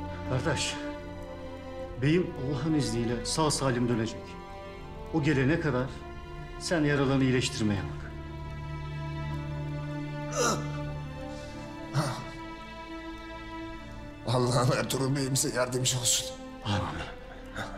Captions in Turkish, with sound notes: Gardaş, beyim Allah’ın izniyle sağ salim dönecek. O gelene kadar sen yaralarını iyileştirmeye bak. (İnleme sesi) Allah’ım Ertuğrul Bey’imize yardımcı olsun. -Âmin. -Âmin.